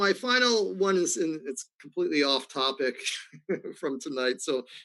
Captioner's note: laughs